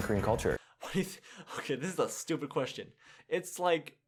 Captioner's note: breathing